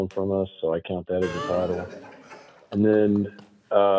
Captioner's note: members laughing